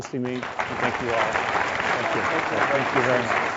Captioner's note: applause